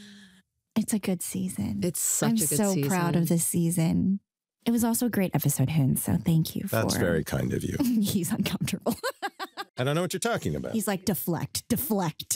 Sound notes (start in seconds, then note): 8.7 laughs